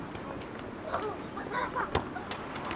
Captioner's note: annoyed